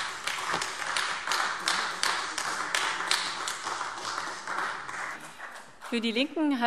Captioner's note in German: Beifall AfD